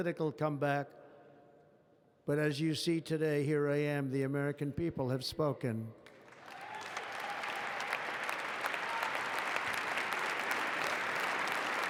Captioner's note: applause